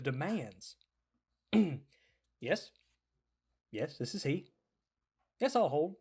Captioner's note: clears throat